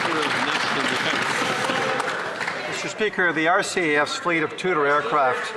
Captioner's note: applause